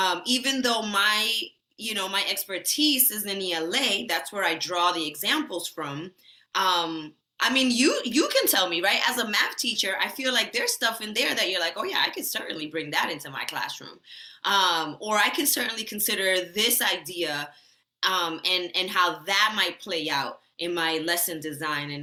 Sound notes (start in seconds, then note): none